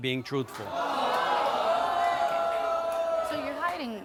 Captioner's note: audience groans